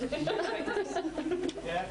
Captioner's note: laughing